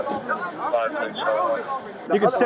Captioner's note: radio chatter